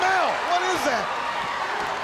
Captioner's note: crowd chattering